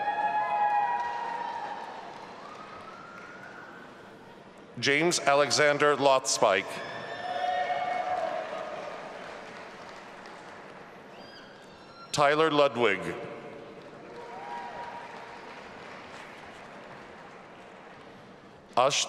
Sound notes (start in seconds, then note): 0.0 audience applauding and cheering; 6.8 audience applauding and cheering; 13.9 audience applauding and cheering